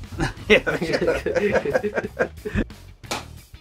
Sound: laughing

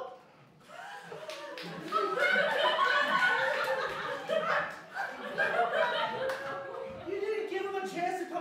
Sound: laughter

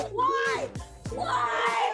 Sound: shouting

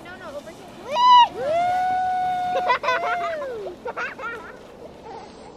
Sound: laughing; cheering

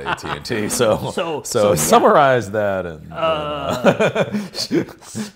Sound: laughs

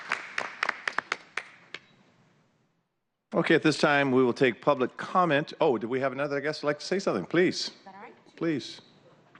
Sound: applause

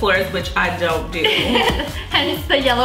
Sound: giggles

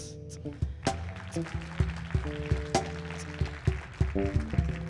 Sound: audience applauding

